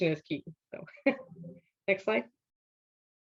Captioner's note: laughs